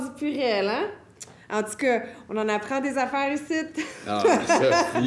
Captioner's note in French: rires